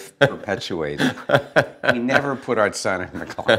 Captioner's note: Kevin Laughs